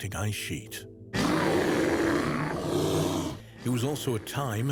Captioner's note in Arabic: هدير الديناصور